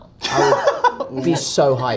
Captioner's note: Jacob laughs